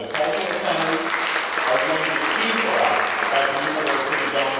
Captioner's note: applause